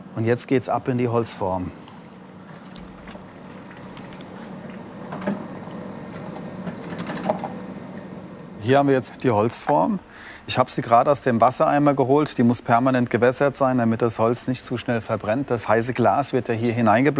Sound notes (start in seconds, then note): 1.8 quiet splashing